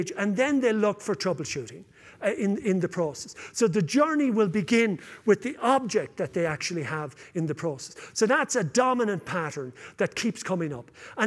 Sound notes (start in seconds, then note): none